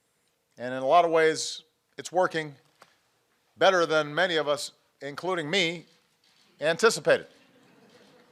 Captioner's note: laughter